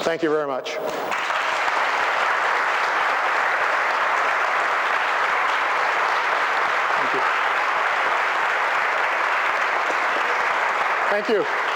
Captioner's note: applause